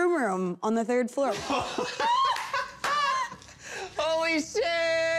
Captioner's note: laughing